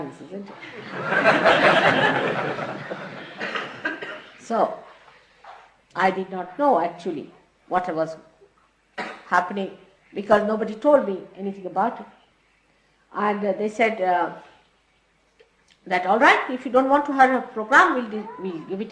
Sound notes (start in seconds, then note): 4.4 laughter